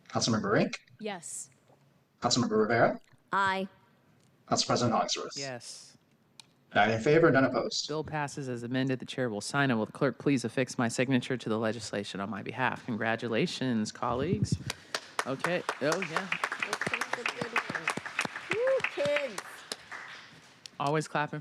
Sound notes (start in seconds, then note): 18.2 applause